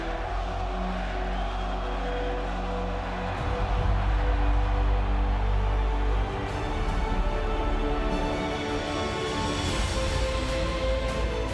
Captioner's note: fans chanting